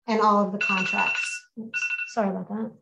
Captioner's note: mobile phone alarm rings